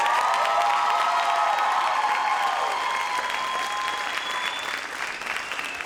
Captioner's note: audience cheers and applauds